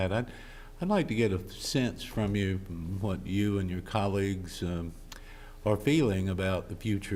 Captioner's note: none